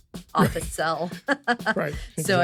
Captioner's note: laughs